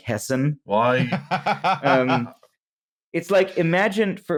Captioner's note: laughs